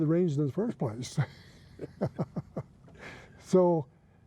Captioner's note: laughing